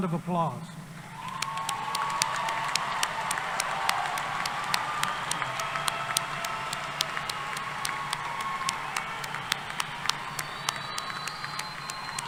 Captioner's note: applause